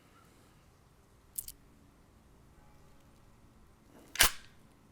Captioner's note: bullet clicks; gun snaps